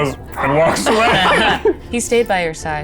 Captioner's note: chuckling